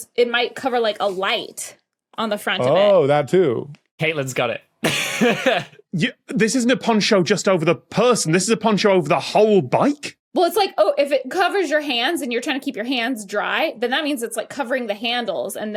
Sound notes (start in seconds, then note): 4.8 laughs